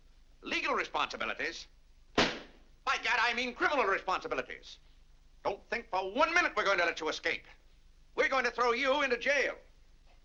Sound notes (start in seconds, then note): 2.2 slams cigar box